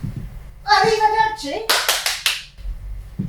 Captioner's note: clapping